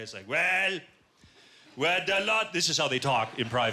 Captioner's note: quebecois accent